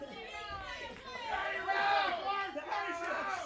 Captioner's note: crowd chatter